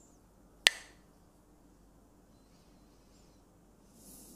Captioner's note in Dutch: klakt met stokjes